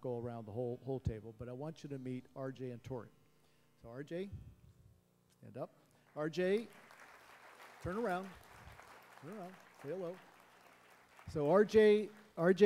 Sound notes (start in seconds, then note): 6.5 applause